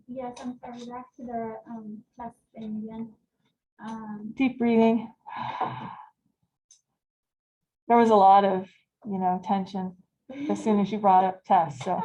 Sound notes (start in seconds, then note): 5.3 exhales